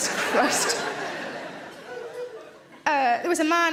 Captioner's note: audience laughs